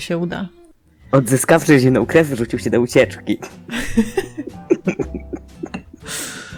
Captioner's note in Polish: śmiech